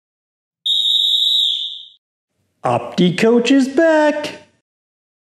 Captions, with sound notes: (whistle tooting) - Opticoach is back!